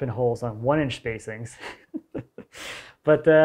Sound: laughs

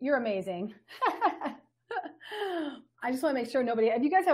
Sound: laughs

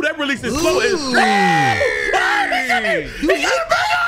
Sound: screaming

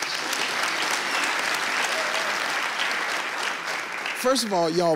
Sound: audience claps

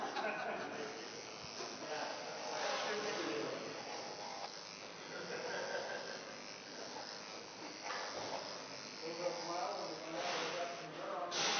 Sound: razor buzzing

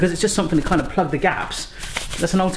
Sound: shakes can

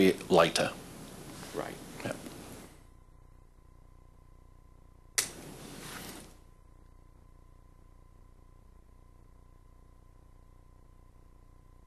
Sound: no speaking

